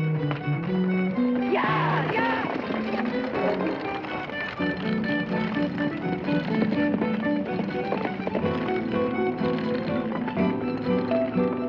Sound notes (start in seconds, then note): 1.6 yelling